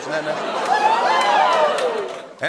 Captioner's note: cheers and applause